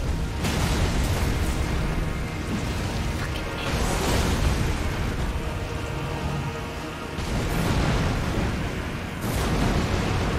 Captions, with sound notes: *whispers* f**king missed..